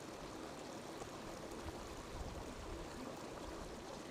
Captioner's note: river babbling